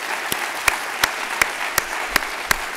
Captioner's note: applause